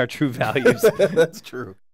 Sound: laugh

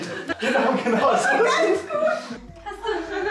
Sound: laughing

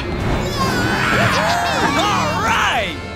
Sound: cheering

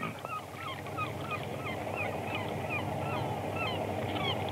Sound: seabirds calling

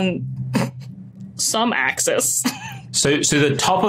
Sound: snort

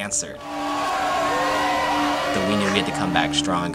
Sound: crowds screaming

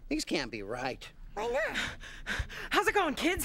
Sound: panting

